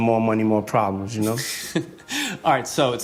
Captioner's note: laughing